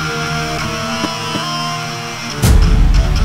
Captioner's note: Punching